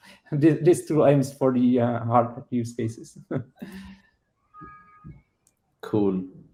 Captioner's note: chuckles